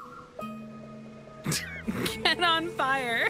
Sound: laugh

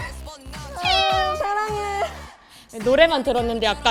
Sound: meow

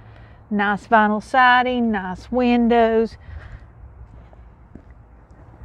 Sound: footsteps approaching

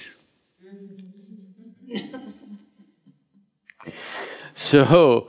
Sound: laughter

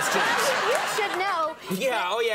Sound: audience laughing

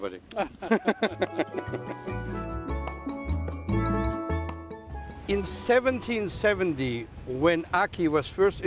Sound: laughter

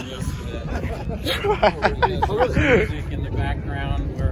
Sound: laughs

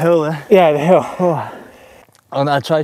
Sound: gasps

